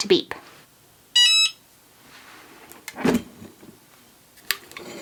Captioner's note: Cricut beeps